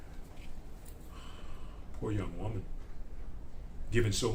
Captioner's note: sighs